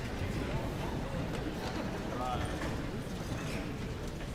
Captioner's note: guests chattering